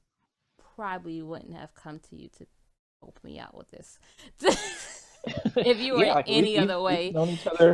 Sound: laughs

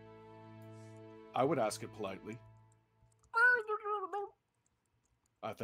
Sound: hedgehog sounds

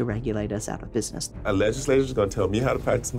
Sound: voiceover

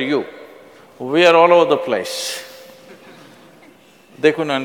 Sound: laughter

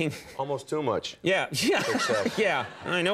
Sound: laughing

